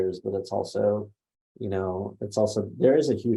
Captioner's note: none